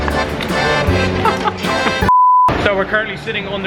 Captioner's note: both laughing